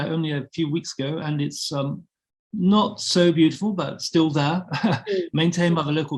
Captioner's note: chuckling